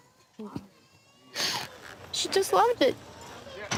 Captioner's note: sniffs; gates clanking